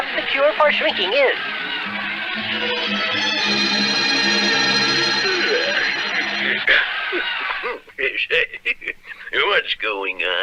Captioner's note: crowd Roars